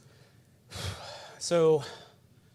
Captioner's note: loudly exhales